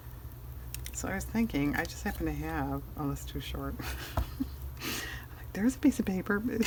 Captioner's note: laughs